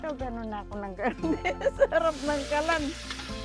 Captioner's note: laughs